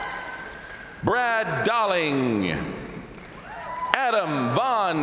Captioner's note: crowd applauding; crowd cheering; crowd cheering